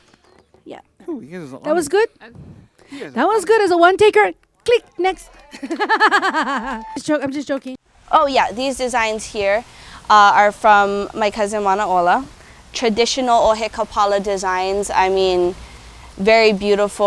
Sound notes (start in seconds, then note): 5.3 laughing